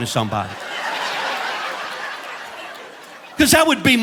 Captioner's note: audience laughing